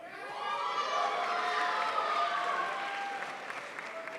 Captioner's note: crowd applauds